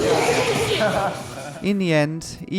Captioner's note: group laughing